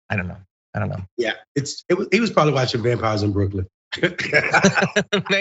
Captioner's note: laugh